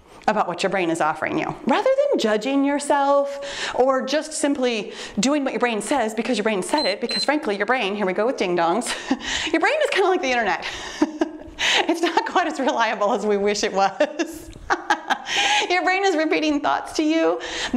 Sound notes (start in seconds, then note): 6.7 timer beeps; 11.4 laughs; 13.8 laughs